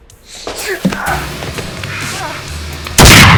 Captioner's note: dramatic music; both grunting; gun blasting